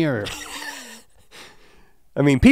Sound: chuckles

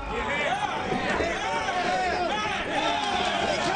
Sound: men shouting

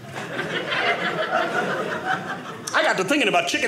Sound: audience laughing

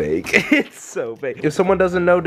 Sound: laughs

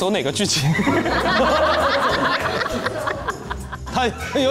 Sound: ha Ha Ha Ha

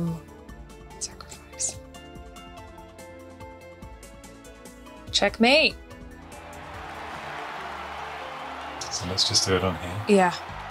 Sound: applause

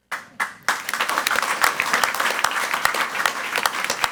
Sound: crowd clapping

